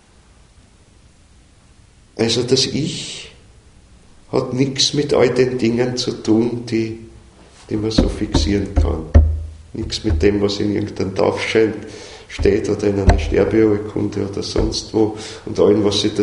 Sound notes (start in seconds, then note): 7.9 taps on something